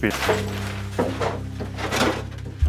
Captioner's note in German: Räumgeräusche